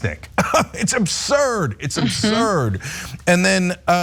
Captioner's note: laugh